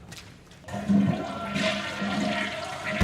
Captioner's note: flushing sounds